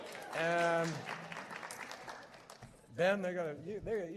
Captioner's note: cheers